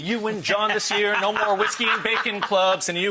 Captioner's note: laughing